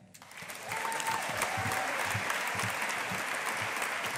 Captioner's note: audience applauding